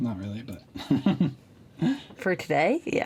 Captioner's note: chuckles